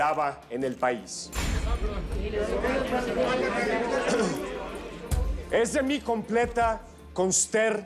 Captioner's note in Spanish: Murmullo de comentarios